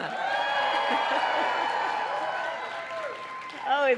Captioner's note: applause; laughs